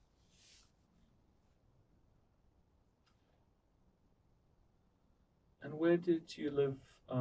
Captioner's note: pauses 6 seconds